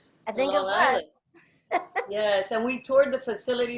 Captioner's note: chuckles